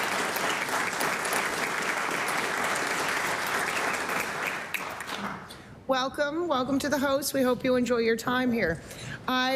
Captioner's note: applause